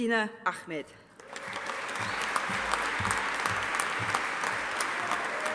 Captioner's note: audience applauding